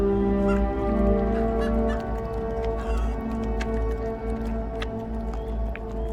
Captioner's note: chickens clucking; animal lips smacking